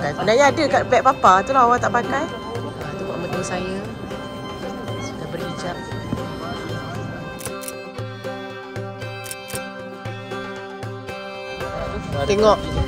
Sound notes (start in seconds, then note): 7.4 camera snap; 9.2 camera snap